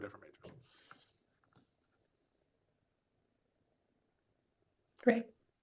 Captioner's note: silence